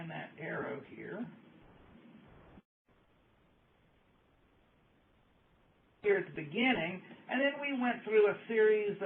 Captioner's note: pause